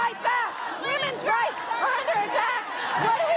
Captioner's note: chants; unison chant